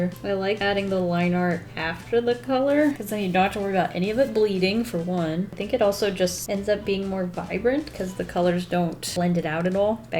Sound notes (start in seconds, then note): none